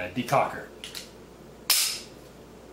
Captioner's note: pause